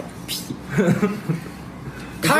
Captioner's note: laughs